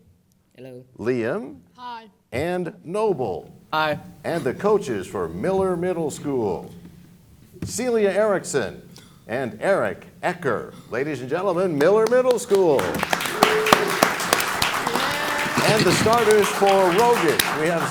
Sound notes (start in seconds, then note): 12.7 cheers and applause